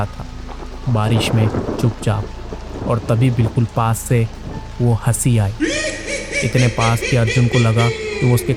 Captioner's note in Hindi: हंसी